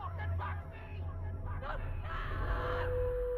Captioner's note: screaming